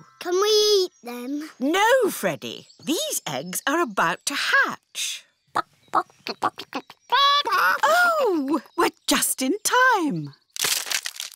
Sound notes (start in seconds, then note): 5.9 clucking